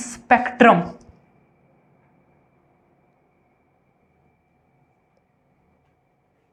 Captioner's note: silence